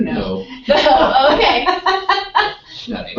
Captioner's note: laugh